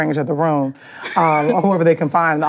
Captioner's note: laughing